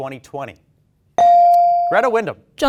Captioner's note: bell dings